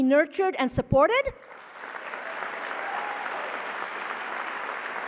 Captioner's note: applause